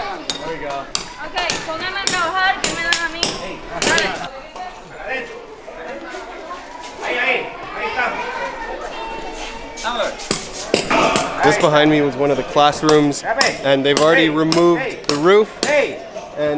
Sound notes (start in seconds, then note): 0.0 laughing; 0.2 crowd chatting in foreign language; 3.7 speaking foreign language